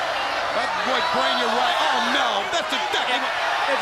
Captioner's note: crowd chatter